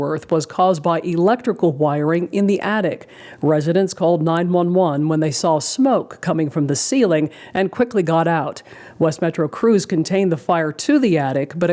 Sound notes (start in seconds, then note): none